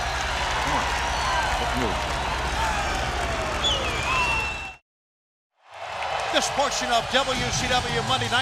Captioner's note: crowd cheering